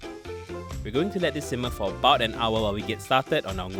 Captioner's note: voiceover